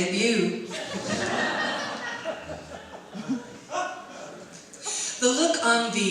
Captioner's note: audience laughs